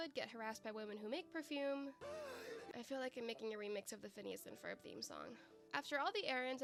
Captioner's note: deep breath